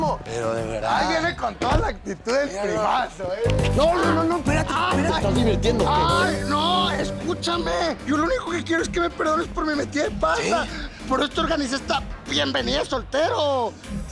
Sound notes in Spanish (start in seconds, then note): 3.0 Gritos